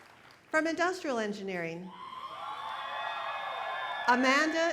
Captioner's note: applause